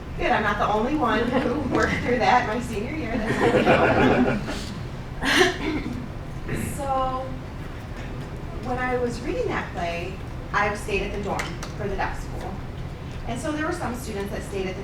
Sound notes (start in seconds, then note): 3.0 laughing